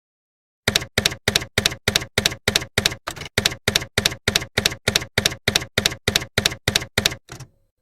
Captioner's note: typewriter keys clacking